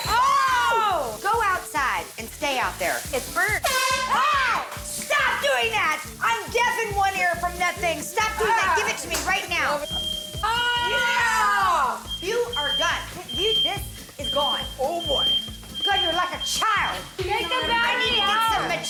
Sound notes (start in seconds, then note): 3.6 horn blast; 10.1 smoke alarm beeping